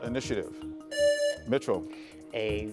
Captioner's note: presses buzzer